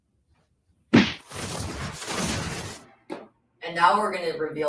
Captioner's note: whooshing